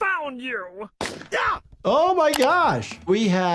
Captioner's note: rifle firing